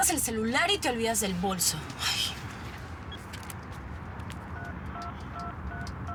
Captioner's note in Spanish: Bip